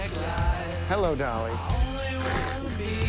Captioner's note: laughs